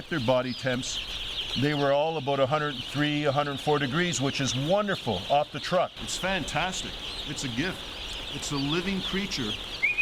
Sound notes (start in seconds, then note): 7.2 whistling; 8.9 chicks chirping